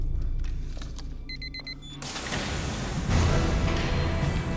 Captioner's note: key beeping; dramatic music